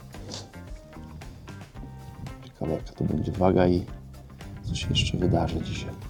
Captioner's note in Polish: parsknięcie